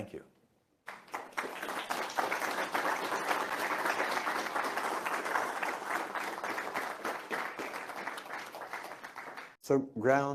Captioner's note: applause